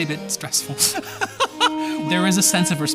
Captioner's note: laughing